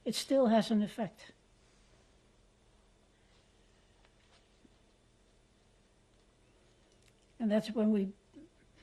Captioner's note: pauses for 6 seconds